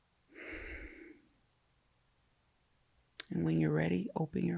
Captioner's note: breathes out